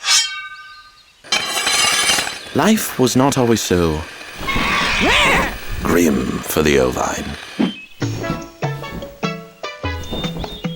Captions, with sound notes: (knife unsheathes) (grindstone grinds) - Life was not always so... (bird caws) (sheep bleats) ...grim, for the ovine. (tropical music)